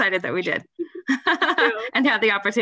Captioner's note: laughter